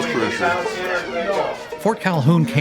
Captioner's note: people chattering